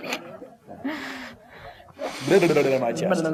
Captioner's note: laughter